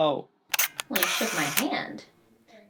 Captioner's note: camera shutter clicks